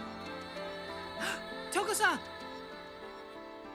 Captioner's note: gasps